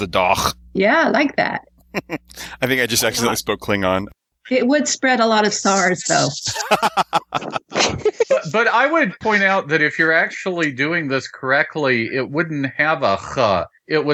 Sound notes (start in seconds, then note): 6.4 laughter